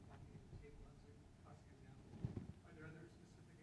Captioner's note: speaking faintly off mic